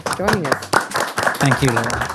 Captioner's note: audience applauding